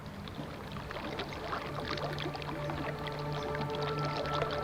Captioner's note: sounds of nature, music